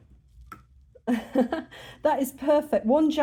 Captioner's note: laughing